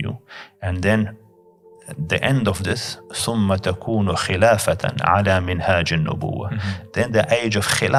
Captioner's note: Arabic